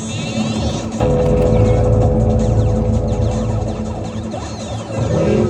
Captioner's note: explosion - chicken dies in distance